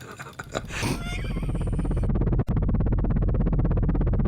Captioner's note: pervy, wheezy laughter; helicopter rotors